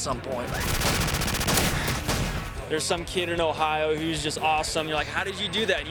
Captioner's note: gunfire